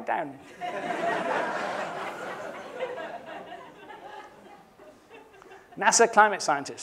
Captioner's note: laughter